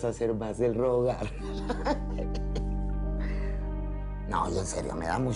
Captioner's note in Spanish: Ríe